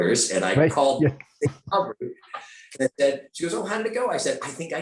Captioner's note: laughing